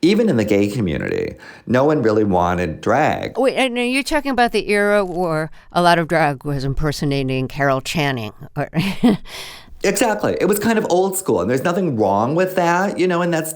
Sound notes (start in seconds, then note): 8.8 laughter